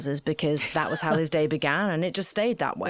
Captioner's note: laughing